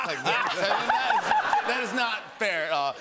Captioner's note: laughter